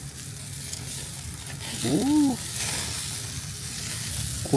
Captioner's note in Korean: 언제 들어도 행복한 고기굽는 소리